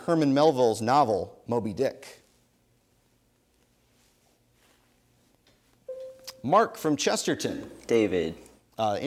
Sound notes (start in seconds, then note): 5.9 bell dings